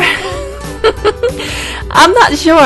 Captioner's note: laugh